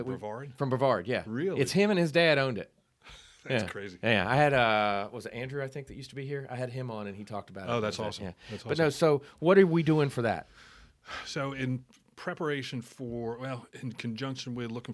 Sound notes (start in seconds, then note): 3.5 laughing